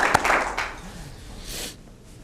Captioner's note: applause